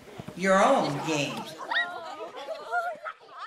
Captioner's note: happy kid cries